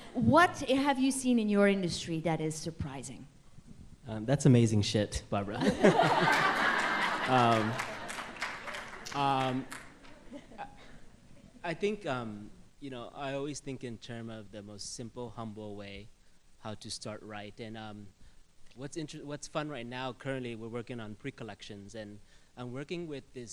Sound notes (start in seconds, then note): 5.6 laughter